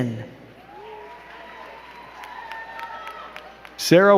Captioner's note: crowd cheering and clapping